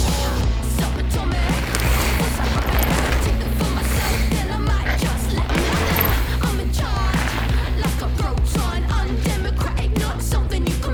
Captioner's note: bikes whoosh past, tires rolling on track